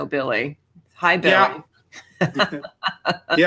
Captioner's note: chuckles